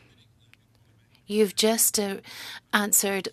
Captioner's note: speaking french